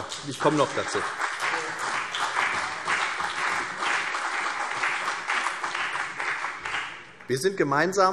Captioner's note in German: Beifall CDU und BÜNDNIS 90/DIE GRÜNEN